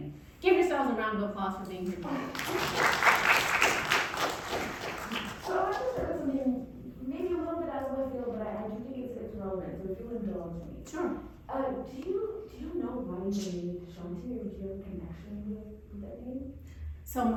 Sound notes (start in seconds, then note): 2.0 audience applauding